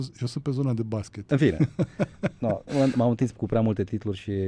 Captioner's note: snored